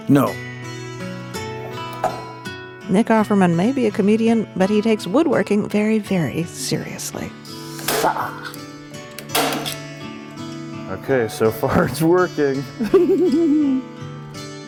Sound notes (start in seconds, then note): 8.6 grunts; 12.7 giggles